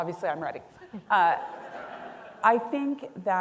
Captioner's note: audience laughing